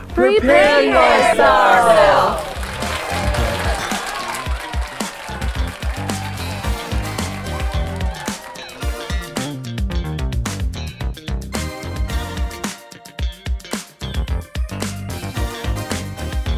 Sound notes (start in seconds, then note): 2.6 audience applauds; 4.4 lively music